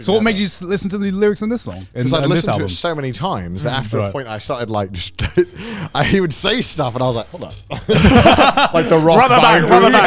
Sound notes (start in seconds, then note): 7.6 laughing